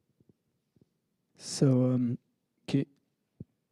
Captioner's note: taps mic